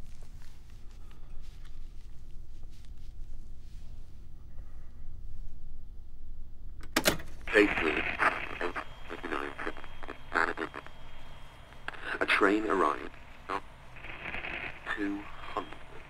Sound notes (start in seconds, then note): 13.1 static buzz